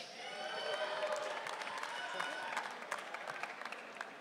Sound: audience cheering

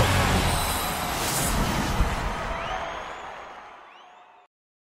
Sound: audience cheering

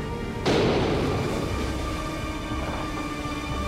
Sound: door slams; tense music

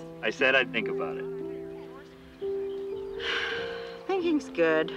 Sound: sighs

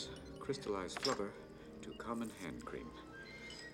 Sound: none

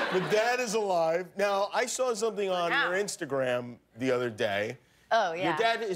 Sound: laughter

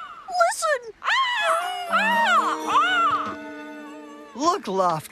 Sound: caw! Caw! Caw!

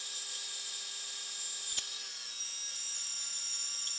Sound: high-pitched whirring

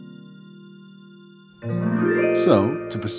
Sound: none

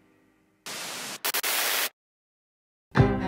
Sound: TV buzzes; cheerful music

